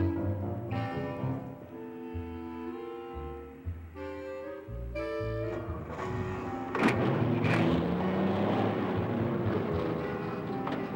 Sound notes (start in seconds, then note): 5.4 engines revving